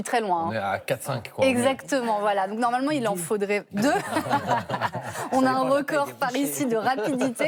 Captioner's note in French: rires